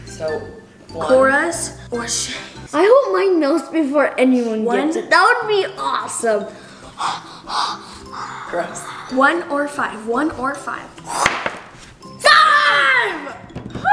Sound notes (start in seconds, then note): 6.5 heavy breathing; 11.2 thud